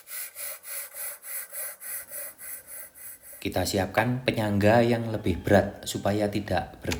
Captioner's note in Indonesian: terengah-engah